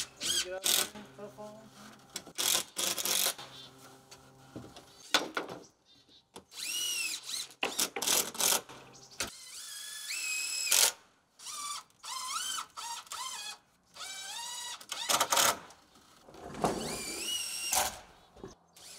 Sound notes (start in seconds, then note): 2.5 drill grating; 6.5 drill whirring; 16.7 drill whirring